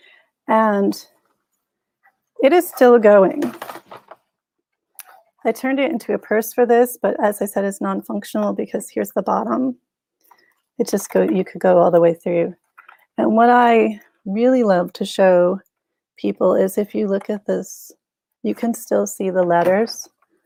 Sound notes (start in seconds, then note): none